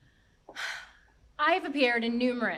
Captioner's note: actor exhales